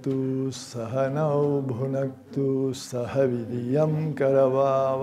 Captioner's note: chanting